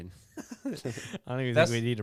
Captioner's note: laughing